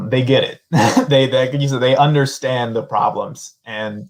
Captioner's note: laughter